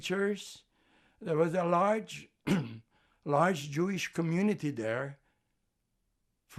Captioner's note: clears throat